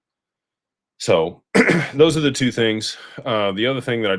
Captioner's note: clears throat